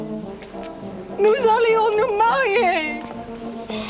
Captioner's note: Jilly speaks French